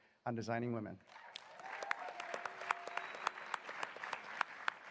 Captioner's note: applause